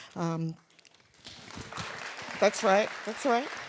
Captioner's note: audience claps